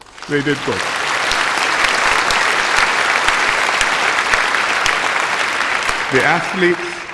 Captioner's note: applause